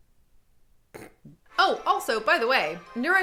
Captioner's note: snorts